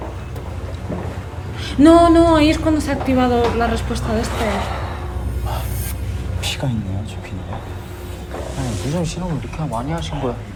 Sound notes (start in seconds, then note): none